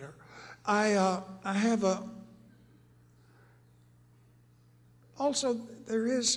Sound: pause

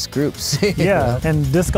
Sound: laughing

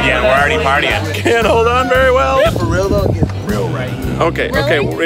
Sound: gasps

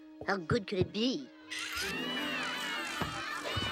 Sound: kids Shouting

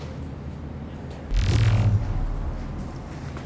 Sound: sci fi woosh

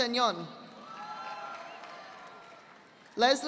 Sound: audience applauding

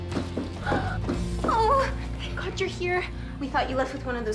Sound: gasps

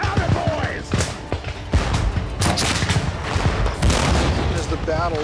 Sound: gunshots

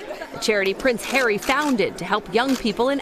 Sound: laughter

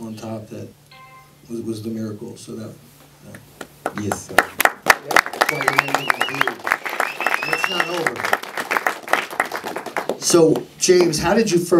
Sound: applause

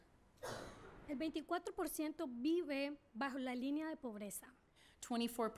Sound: speaking spanish

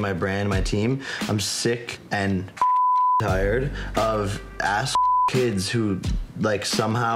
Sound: beep

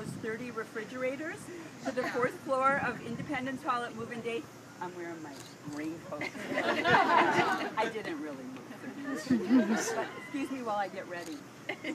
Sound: laughing

